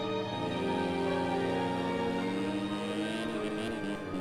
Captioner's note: engines revving